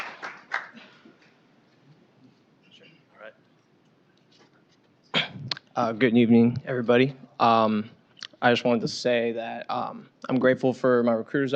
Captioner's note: applause